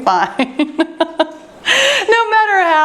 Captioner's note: laughing